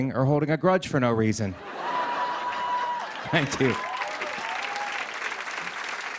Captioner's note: cheers and applause